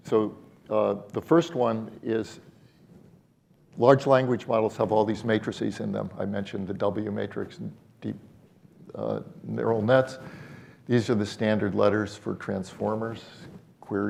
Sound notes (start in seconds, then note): none